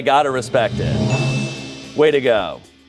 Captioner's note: bell dings